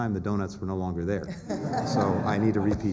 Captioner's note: laughter